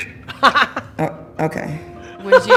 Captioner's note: laughing